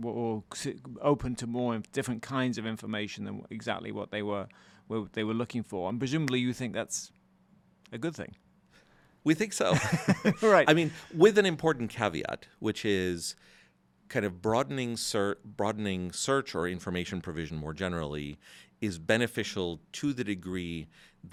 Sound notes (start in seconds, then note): 9.7 both chuckles